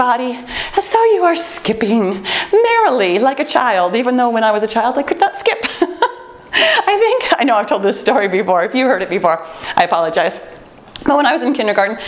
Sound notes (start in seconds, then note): 6.4 laughs